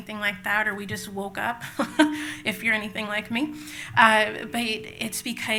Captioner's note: laughs